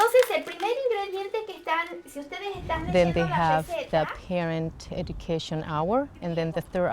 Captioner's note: speaking Spanish